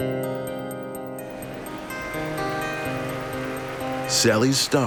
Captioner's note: audience applauding